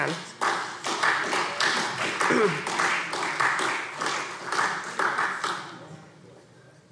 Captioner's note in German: Beifall SPD